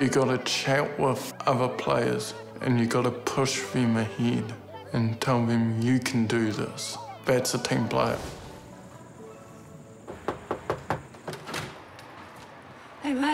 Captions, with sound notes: You've got to chat with other players and you gotta push them ahead and tell them, 'You can do this.' That's a team player. (KNOCKS ON DOOR)